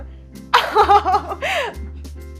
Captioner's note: laughs